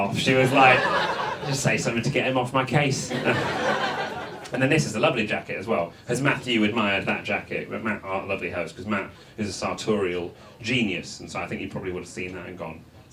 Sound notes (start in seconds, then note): 2.9 audience laughs